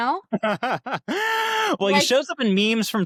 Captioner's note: laughs